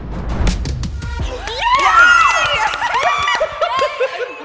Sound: suspenseful music; everyone cheers and claps

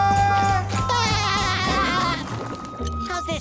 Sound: laughing

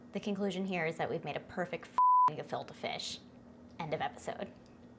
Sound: beep

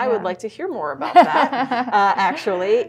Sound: laughs

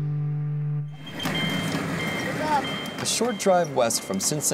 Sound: bell dings

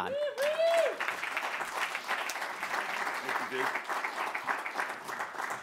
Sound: applause

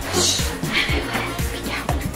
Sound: shushing

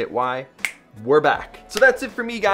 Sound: snaps fingers

